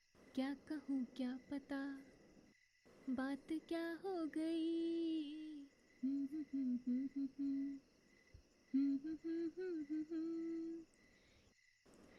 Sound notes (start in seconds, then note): 0.2 singing; 6.2 humming